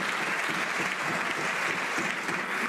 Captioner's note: some Applause